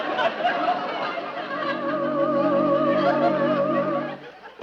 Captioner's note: audience laughing